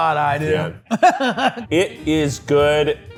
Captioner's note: laughs